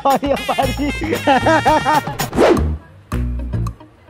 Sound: start crying

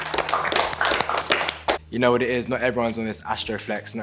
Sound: clapping

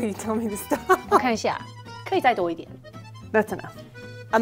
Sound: speaking in mandarin

